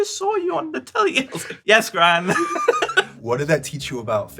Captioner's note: laughs